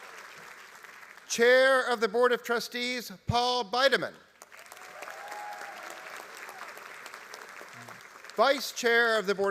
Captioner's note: applause